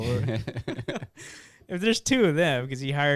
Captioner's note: laughing